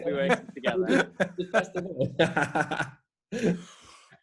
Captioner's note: laughing